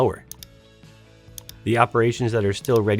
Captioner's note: keyboard clicks